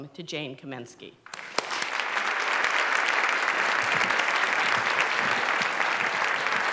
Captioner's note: applause